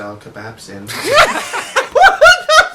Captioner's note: laughs